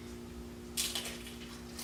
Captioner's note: crunch